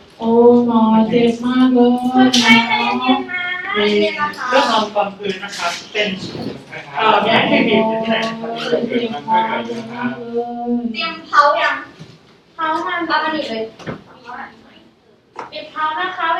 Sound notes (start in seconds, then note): 2.0 simulated patient voice; 12.2 simulated patient voice